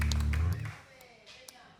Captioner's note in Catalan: aplaudiments